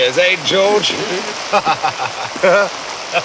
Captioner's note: laughing